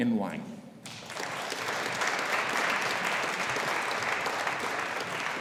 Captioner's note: audience applauding